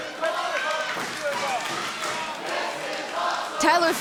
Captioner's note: crowd chanting "This is awesome"